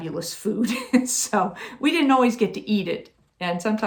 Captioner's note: chuckling